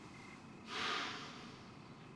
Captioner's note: sighs